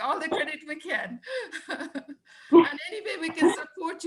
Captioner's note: laughing